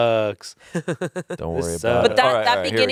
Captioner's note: laughs